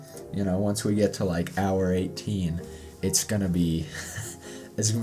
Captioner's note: laughs